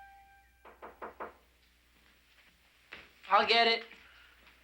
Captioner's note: wood rapping